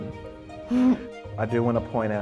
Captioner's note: laughs